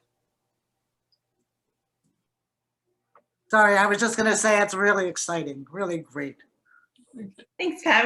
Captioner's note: pat